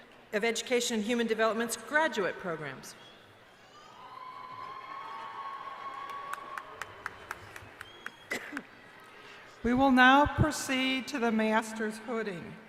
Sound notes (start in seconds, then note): 3.8 cheering